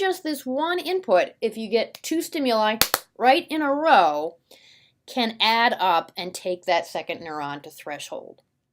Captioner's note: claps twice